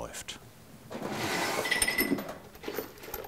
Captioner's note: clanking